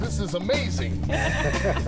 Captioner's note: laughter